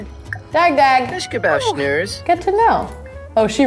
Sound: Sergio speaks Simlish

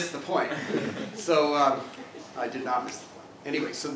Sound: laugh

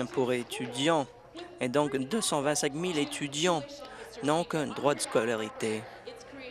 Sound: applause

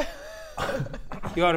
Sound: breathes

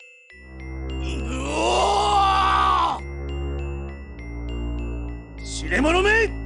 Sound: roars with the effort of casting

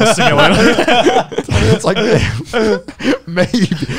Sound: all laughing

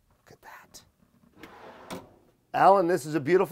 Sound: whispering

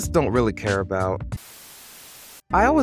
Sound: static buzzing

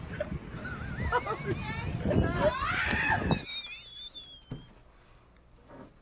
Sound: woman screams; laughs

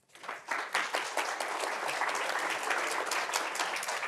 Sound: audience applauding

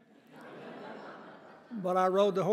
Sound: audience laughing

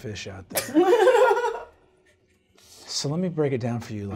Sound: chuckles

